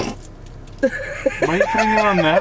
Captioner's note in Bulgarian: се смее